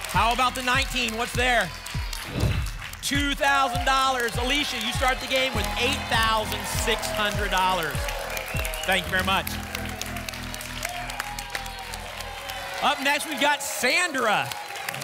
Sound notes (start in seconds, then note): 2.2 whoosh; 10.3 applause and cheering